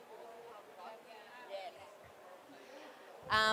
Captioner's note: background chatter